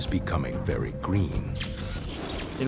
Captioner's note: buzzing and crackling